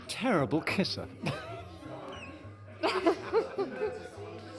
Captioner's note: both laughing